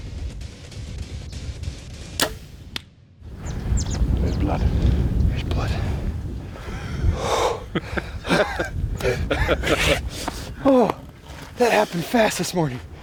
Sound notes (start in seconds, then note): 2.1 bow firing; 6.6 sighing; 7.2 laughing; 8.3 gasping